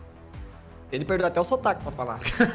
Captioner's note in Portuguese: risada